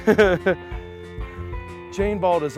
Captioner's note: chuckling